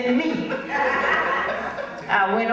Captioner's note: audience laughs